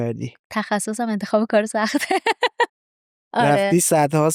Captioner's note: laughs